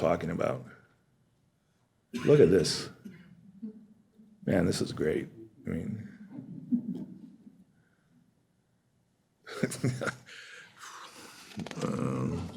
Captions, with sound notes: talking about. Look at this. Man, this is great. I mean-- [LAUGHS]